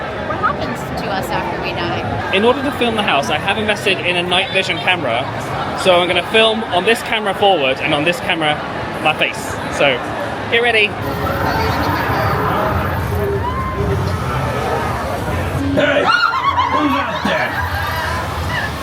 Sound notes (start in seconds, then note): 11.0 spooky magical intro music; 16.7 guest screaming